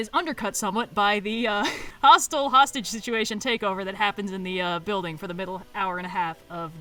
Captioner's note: laughs